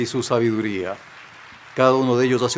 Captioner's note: cheers and applause